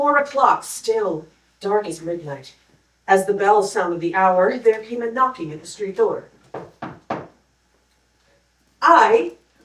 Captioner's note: knock knock knock